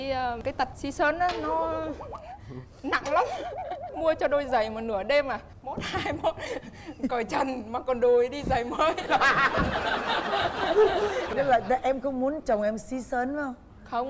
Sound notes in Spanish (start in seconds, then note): 8.9 risa